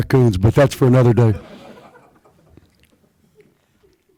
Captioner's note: laughter